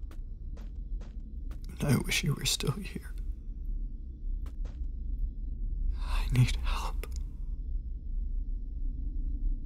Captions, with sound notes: I wish you were still here. (Whispering) I need help....